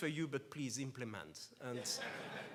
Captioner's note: laughs